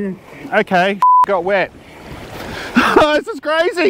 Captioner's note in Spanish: bip